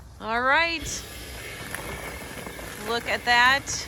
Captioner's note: machine whirring